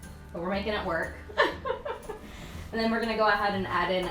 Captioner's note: laughs